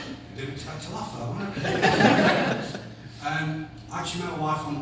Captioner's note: unexpected laugh from audience